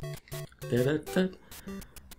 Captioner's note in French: imite un peu la musique du jeu